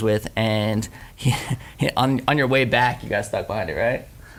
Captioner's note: laughs